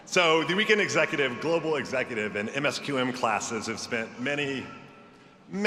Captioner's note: none